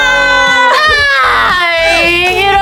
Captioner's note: sob